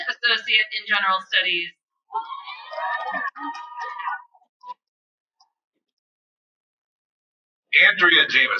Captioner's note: cheering